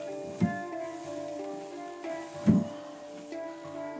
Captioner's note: object thudding